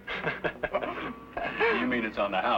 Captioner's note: laughing